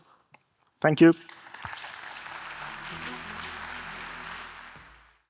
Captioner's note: audience applauds